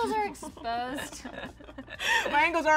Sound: laughing

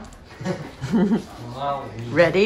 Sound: chuckle

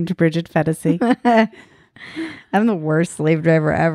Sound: laughing

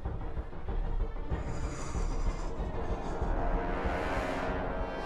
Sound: exhales deep

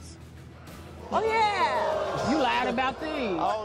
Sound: audience gasping

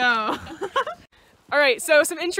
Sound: laughing

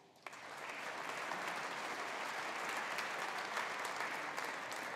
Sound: audience applauding

